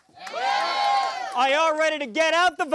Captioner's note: crowd applauding and cheering